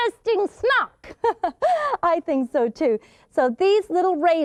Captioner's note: laughs